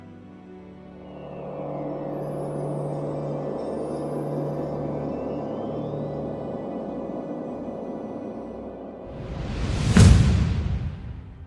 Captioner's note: Sounds of Jupiter forming